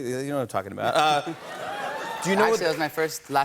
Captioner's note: laughs; cheers and applause